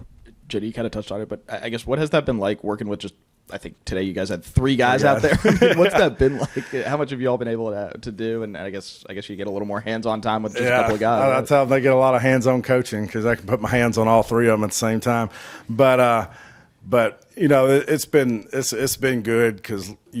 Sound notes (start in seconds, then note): 5.0 laughs